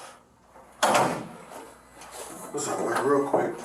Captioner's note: door closes